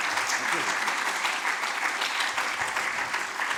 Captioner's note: applause